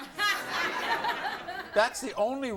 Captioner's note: laughter